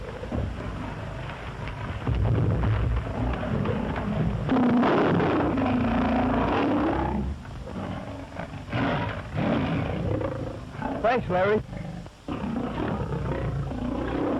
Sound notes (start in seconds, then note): 3.0 roars